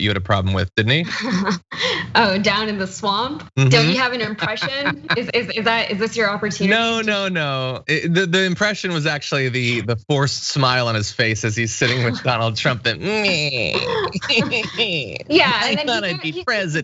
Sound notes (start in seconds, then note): 3.6 laugh